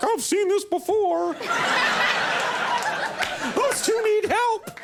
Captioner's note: Mila and crowd laugh